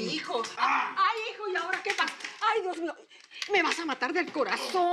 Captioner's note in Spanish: Quejidos